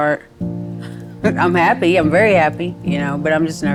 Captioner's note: chuckles